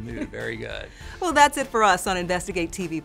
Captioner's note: chuckles